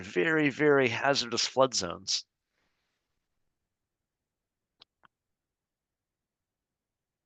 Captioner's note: silence